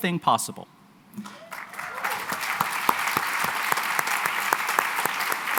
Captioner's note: applause